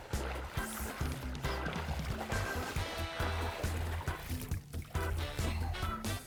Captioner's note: water splashing; fun upbeat music